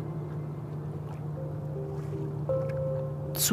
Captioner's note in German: Wasserplätschern